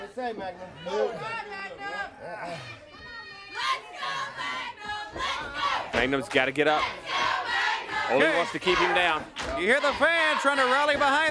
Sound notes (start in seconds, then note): 0.0 crowd chatter; 2.4 crowd chatter; 3.0 crowd cheering